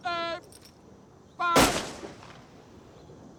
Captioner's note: gunshots